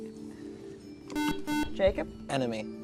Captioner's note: buzzer